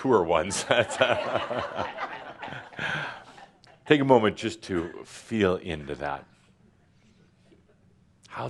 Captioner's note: laughter